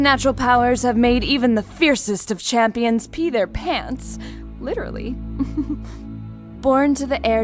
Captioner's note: soft chuckle